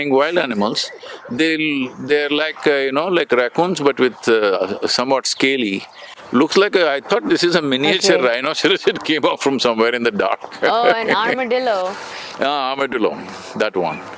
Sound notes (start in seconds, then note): 10.1 laughs